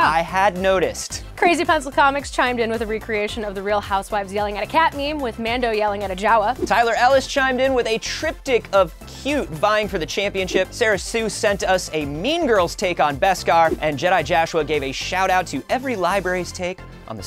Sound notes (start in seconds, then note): none